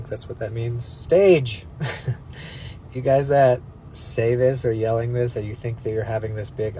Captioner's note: scoffs